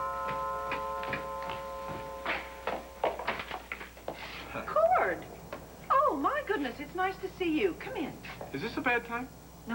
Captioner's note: doorbelrings